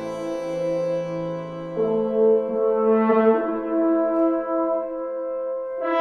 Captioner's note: horn